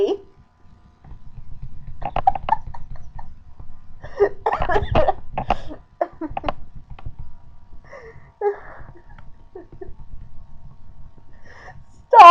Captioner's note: about the most sick agonizing laughter from a sick person ever